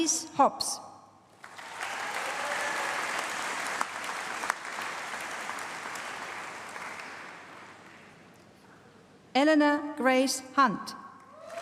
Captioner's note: applause